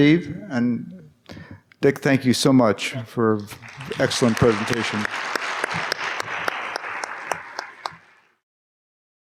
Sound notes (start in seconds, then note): 5.3 applause